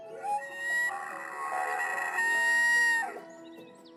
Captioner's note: elk bugling